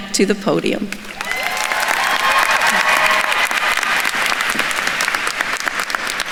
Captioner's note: attendees cheering and applauding